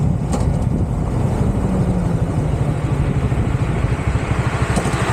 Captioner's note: road noise, clunking sound